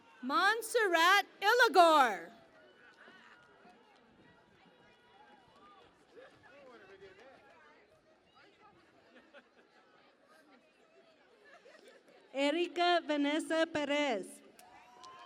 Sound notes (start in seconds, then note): 0.0 cheering and Applause; 3.1 cheering and Applause